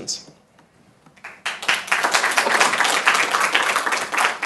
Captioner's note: group clapping